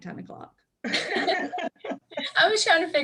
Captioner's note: laughs